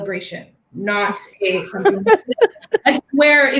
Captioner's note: laughing drowns speaker